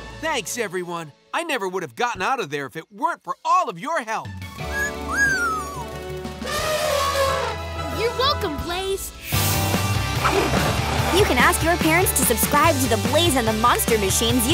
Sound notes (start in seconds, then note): 4.4 squeaking; 6.3 trumpeting